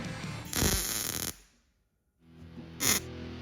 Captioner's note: welder sizzling; upbeat music